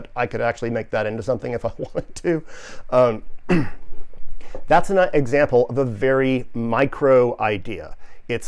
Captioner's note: laughs